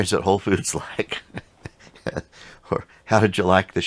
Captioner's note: chuckles softly